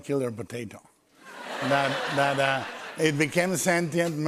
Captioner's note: laughter